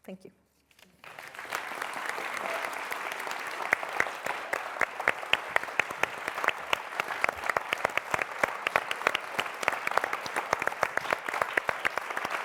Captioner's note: applause